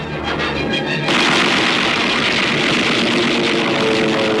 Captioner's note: guns firing rapidly